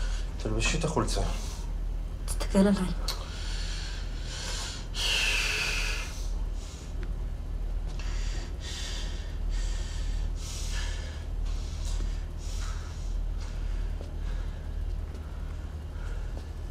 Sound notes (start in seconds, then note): 4.4 sighs; 6.5 heavy breathing